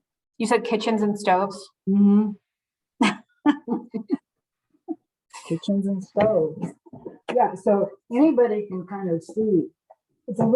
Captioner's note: laughs